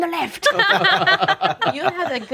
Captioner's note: group laughing